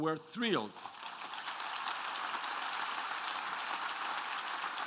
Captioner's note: applause